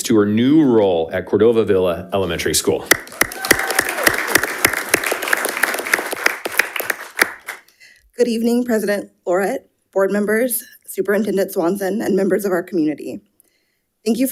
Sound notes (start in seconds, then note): 2.9 audience applauding